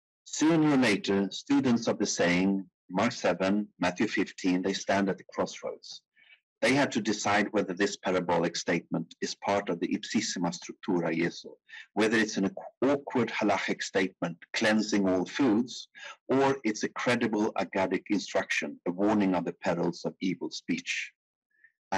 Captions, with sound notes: Sooner or later, students of the same Mark 7, Matthew 15, they stand at the crossroads. They had to decide whether this parabolic statement is part of the (speaking in foreign language). Whether it's an awkward halakhic statement cleansing all foods or it's a credible (speaking in foreign language) instruction, the warning of the pedals of evil speech